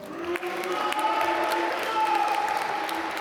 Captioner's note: applause